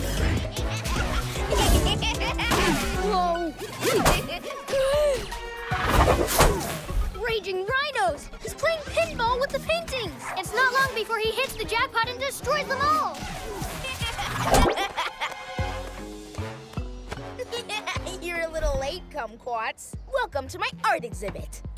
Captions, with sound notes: (Laughter) Whoa! (Gasps) Raging rhinos! He's playing pinball with the paintings! It's not long before he destroys them all! (Evil laugh) You're a little late, Kumquats. Welcome to my art exhibit!